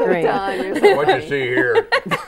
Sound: laughing

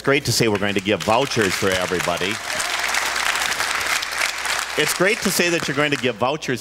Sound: applause

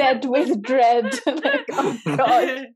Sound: everyone laughs

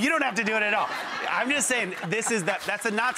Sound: crowd laughs

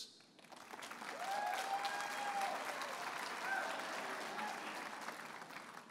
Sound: audience applauding and cheering

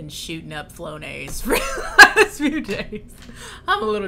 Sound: laughs

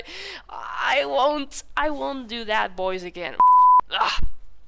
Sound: beeep

